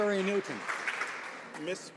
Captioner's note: some Applause